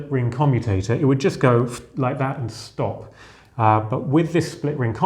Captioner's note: sharp exhale